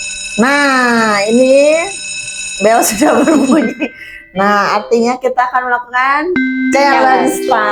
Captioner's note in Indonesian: tertawa